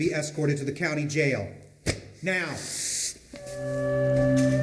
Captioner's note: inhales through teeth